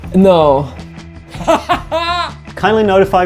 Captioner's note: laughing